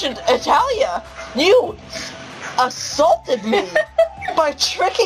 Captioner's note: laughing